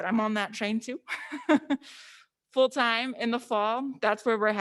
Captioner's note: laughs